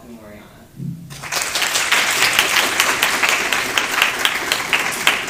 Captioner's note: applause